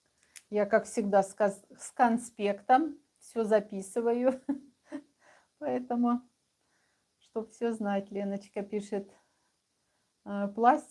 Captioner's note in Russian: смех